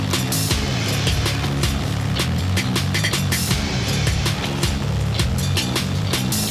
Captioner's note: airboat motor running; fan blowing; rock music